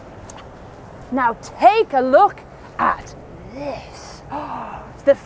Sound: gasps

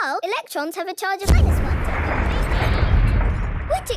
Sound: distant explosion

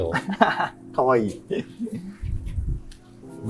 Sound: laughs

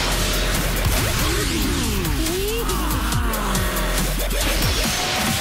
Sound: crowd exlaims

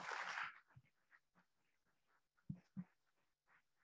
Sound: audience applauding

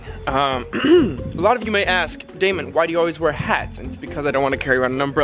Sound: clears throat

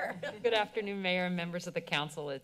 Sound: members giggling

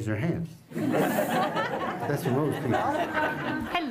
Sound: laughter

